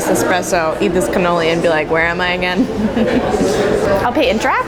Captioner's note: laughs